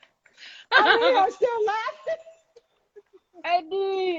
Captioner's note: laughs